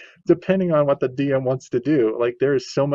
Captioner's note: laughs